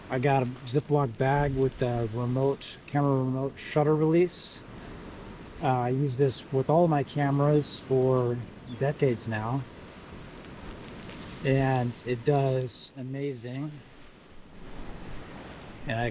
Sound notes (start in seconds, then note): 10.8 water splashing